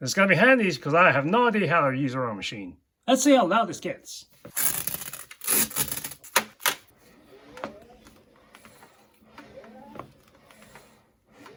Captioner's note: rowing intensifies